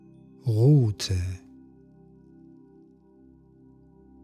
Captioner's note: german